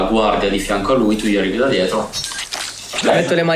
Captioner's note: tearing flesh